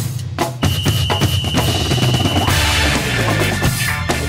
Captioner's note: whistle blows; upbeat music